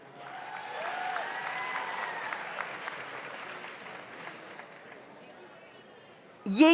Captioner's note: audience applauds; audience cheers